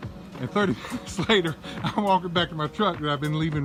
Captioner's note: laughing